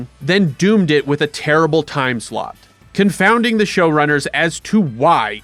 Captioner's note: none